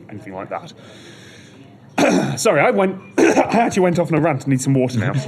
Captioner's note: coughs